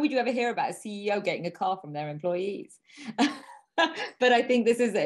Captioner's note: laughing